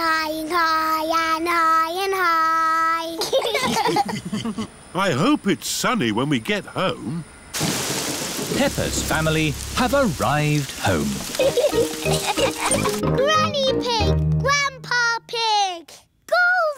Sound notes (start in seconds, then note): 3.2 laughter; 11.3 laughter